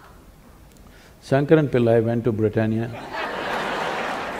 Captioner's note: laughter/Applause